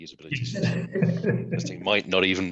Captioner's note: both laughing